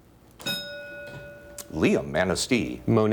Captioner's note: ding